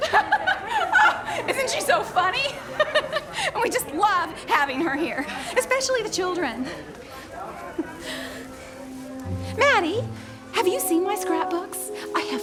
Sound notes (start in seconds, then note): 0.3 laughs; 8.5 gentle playful music